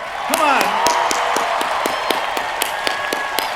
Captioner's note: cheering